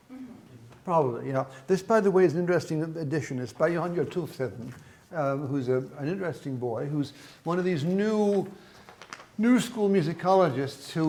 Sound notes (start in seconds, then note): 0.2 murmurs agreement; 3.8 speaks in foreign language